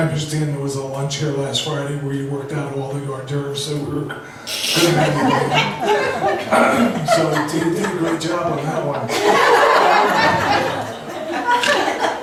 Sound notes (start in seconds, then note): 4.6 laughs